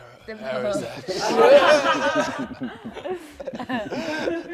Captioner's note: laughter